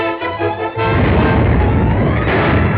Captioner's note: explosion; ground rumbling